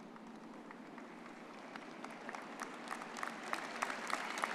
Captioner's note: all clapping